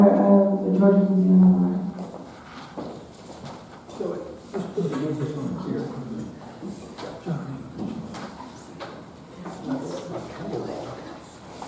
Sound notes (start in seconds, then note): 3.9 attendee chattering